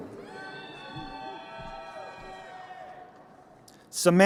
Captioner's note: crowd cheering